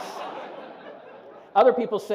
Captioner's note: laughter